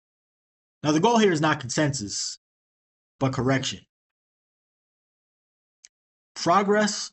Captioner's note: long pause